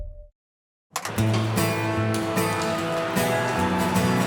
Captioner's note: audience cheering; rousing country music